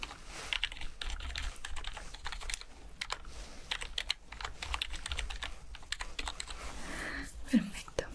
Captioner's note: typing sounds